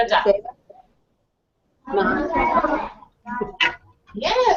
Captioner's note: children speaking Wolof